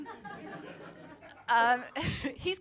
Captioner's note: audience laughing